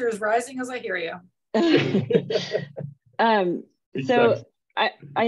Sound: laughter

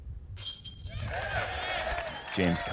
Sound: applause

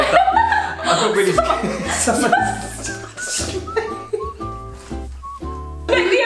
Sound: gasps; both laugh

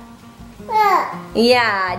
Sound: baby talk

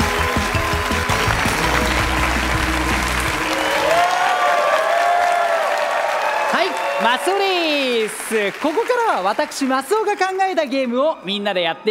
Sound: applause

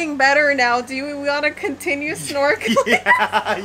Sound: laughing

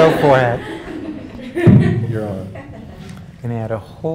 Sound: laugh

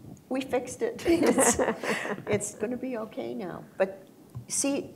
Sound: laughter

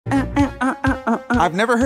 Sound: humming

